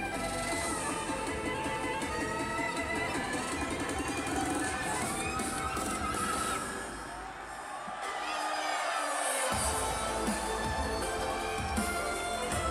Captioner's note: crowd cheering